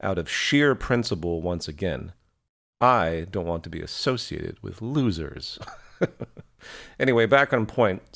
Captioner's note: laugh